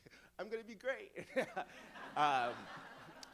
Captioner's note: audience laughing; laughs